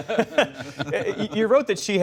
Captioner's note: laughter